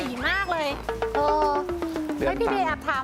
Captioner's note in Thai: เสียงเอฟเฟกต์